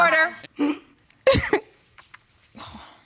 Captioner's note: sobbing